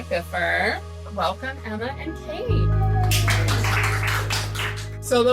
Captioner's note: clapping